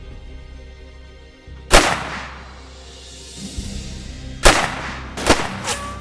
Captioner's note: soft tense orchestral music; guns firing